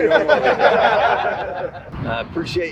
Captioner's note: group laughing